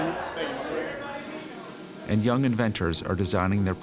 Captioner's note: talking in background